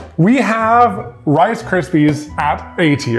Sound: none

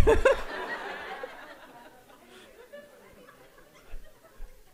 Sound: audience laughing

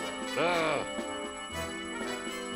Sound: grunts

